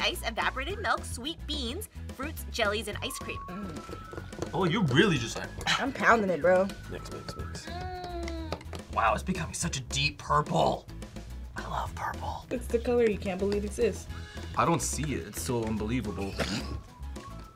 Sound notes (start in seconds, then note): 11.3 whispers; 16.7 snickers